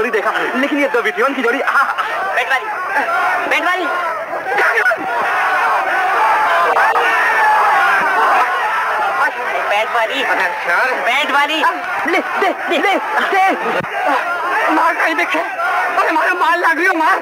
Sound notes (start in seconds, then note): 1.7 muffled encouragement, exclamations